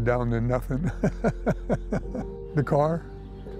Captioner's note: chuckles